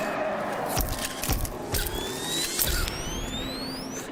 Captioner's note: soft music; camera clicks